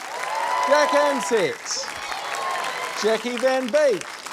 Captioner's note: cheering, applause